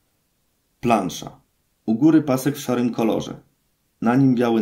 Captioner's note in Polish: Głos męski z offu, audiodeskrypcja planszy